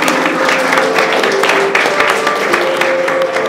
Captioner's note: applause